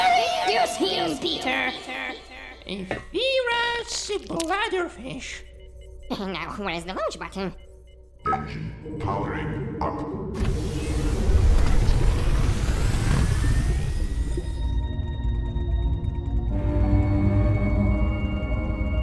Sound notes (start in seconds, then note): 8.3 engine powering up